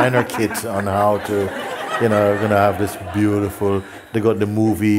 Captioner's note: laughter